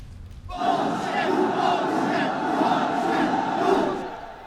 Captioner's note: chanting